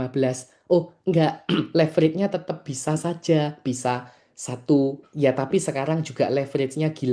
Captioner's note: berdehem